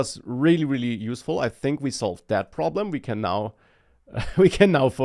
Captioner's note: laughs